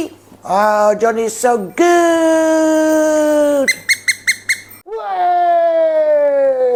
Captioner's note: squeak squeak squeak